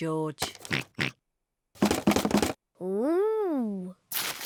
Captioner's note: oinks; rattles